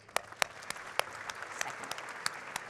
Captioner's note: audience clapping